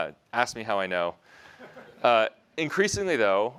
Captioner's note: laughter